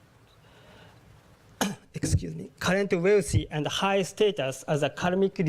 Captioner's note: cough